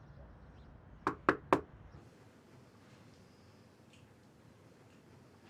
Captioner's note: knuckles rapping